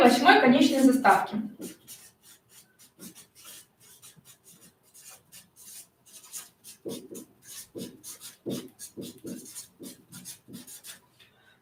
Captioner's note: скрежет маркера; скрежет маркера